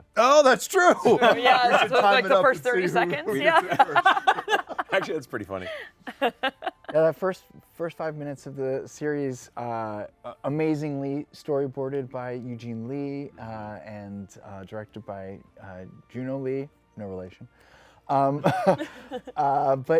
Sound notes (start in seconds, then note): 4.4 laughs